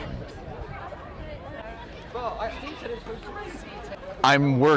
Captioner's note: crowd conversing